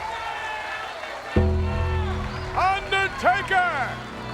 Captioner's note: crowd cheers; gong rings